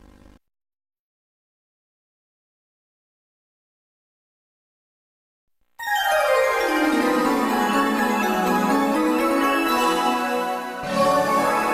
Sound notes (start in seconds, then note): 0.0 silence; 5.8 128-bit console startup music playing